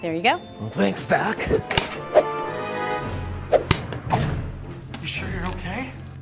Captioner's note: suspenseful music; air whooshing